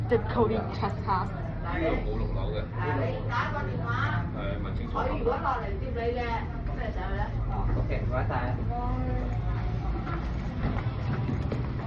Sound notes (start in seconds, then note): 2.1 Cantonese